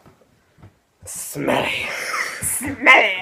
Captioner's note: gasp!